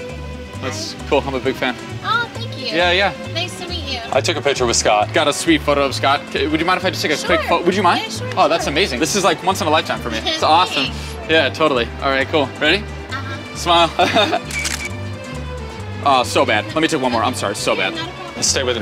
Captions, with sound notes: It's cool, I'm a big fan. - Aw thank you. Nice to meet you. - I took a picture with Scott. - I got a sweet photo of Scott. Would you mind if I just take a quick photo, would you mind? - Yeah sure. - Oh, that's amazing. This is like once in a lifetime for me. That's awesome, yeah totally. All right cool, ready? - Uh huh. - Smile. (camera flashes) Aw, so bad. Let me take one more, I'm sorry so bad.